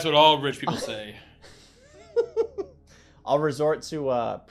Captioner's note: laughing